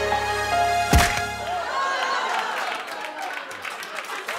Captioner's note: crunch!